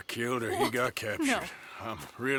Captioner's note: in tears